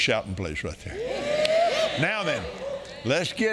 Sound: congregation cheering

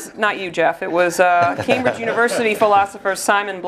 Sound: laugh

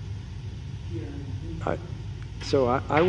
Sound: speaks faintly

